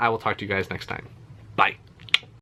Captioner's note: finger gun and tongue click